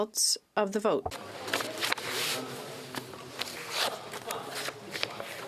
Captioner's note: speaking French